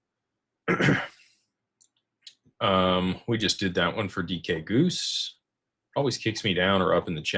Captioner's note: clears throat